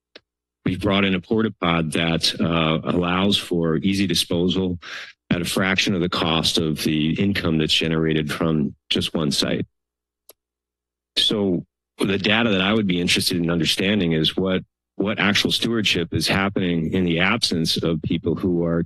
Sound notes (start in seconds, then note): 11.2 pause